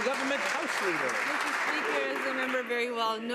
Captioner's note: some Applause